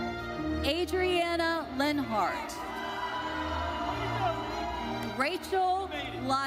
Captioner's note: audience cheers